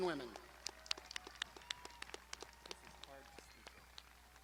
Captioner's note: crowd applauding